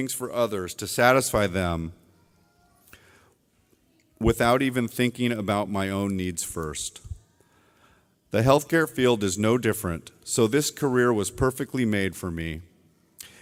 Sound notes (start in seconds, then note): none